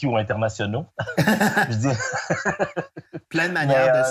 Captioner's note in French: rires